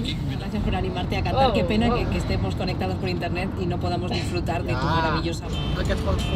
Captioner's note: radio in Spanish